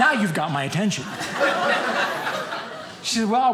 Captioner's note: audience laughing